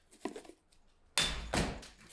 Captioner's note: ping